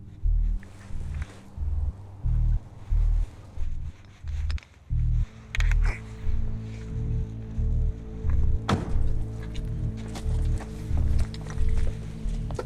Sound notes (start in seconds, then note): 1.1 pulsating music; 8.7 car door closes